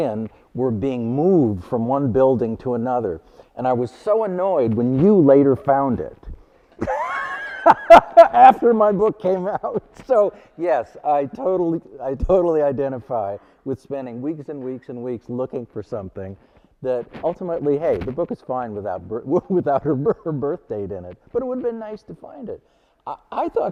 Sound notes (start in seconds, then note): 6.8 laughing